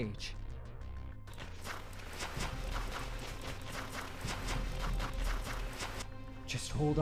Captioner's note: no response as footsteps sound off